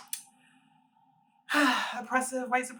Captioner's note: sigh